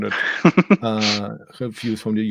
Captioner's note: laughing